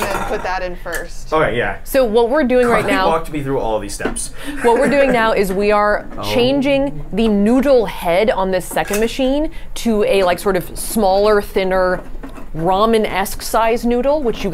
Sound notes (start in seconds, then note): 4.4 laughs